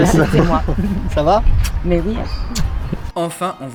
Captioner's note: exchange of kisses